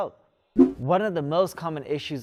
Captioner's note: air swish